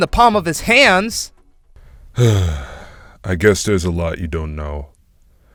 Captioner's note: sigh